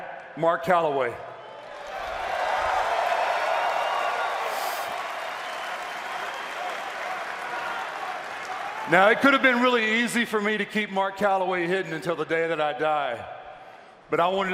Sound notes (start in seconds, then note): 6.3 cheers and applause